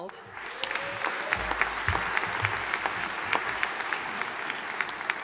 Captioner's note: audience applauding